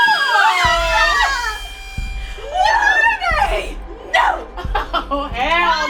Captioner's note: screams